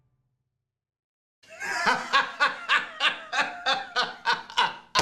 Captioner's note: laughs